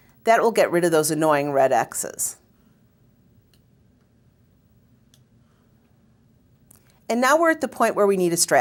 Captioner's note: pause